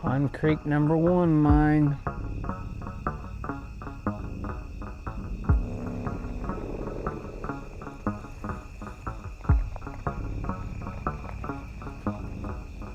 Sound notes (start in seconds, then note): 3.5 crickets chirping; 3.5 tense music